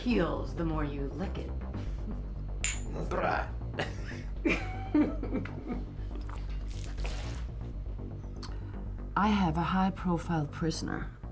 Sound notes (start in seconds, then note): 3.8 both laugh